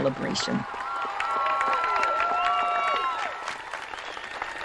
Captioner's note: audience applauding